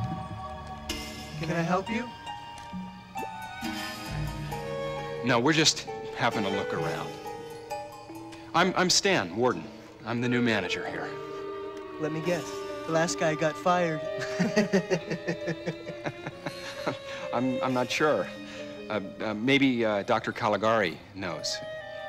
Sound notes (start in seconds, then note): 14.0 <i> chuckling</i>; 14.1 <i> both chuckle</i>